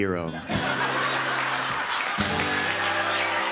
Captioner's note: cheers and applause